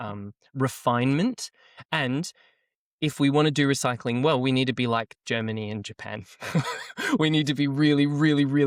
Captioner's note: laughs